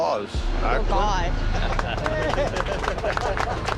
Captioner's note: applause